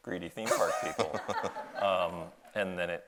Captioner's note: audience laughs